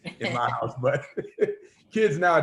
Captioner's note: laughing